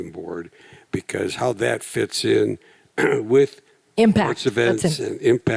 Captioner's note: clears throat